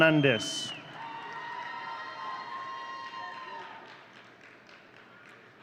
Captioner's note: audience cheering